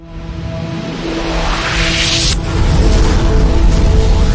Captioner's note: dramatic whooshing